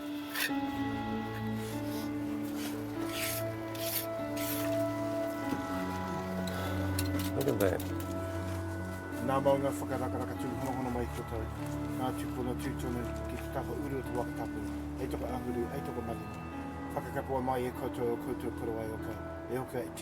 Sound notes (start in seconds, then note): 0.1 inspiring piano instrumental plays; 9.3 says a karakia in Māori